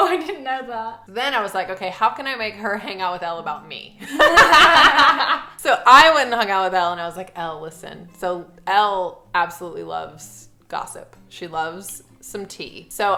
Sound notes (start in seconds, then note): 4.0 laughing